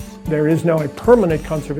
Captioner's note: male Voice